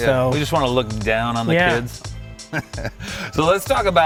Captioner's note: chuckling